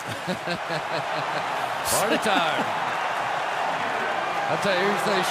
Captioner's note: laughing